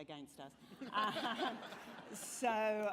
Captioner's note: laughter